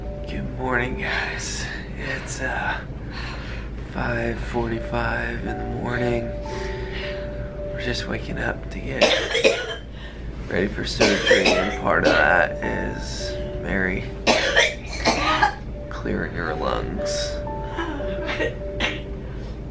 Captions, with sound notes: Good morning guys. It's uh... 5:45 in the morning. We're just waking up to get ready for surgery and part of that is Mary... [coughing] Clearing her lungs. [coughing]